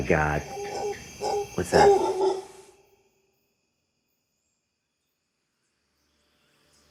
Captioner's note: dog barking